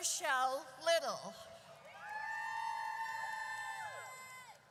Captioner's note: audience cheers